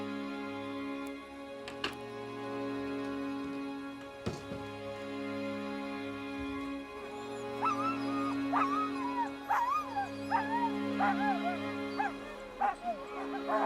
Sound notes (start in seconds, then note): 4.9 dog whimpers; 10.8 dogs barking